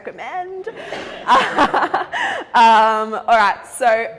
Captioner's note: laughs